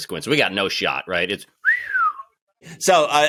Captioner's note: whistles